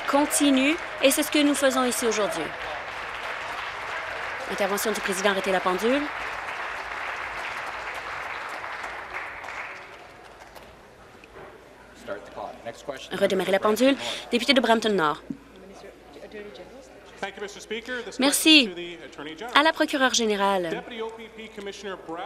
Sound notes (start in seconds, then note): 3.4 applause